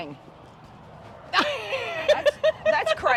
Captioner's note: laughs